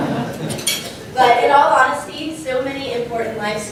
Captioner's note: laugh